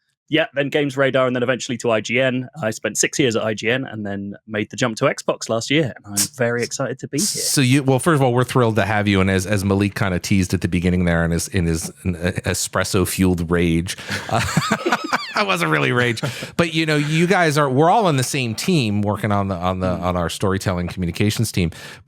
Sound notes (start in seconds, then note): 13.9 laughter